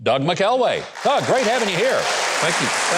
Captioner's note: audience applauding